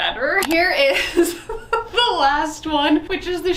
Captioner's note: camera shutters; chuckles